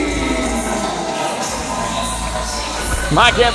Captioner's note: crowd cheering